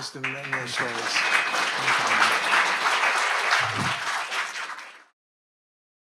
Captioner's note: audience applauding